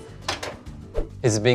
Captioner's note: oven door clacks; screen whooshes